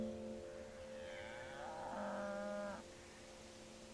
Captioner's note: pensive music; cow mooing